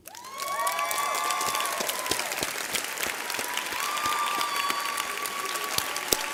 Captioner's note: audience and graduates cheer